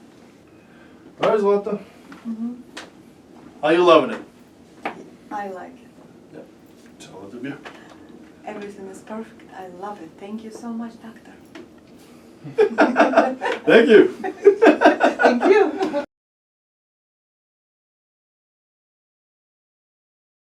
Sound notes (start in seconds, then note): 12.4 laughing